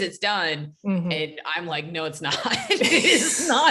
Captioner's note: laughs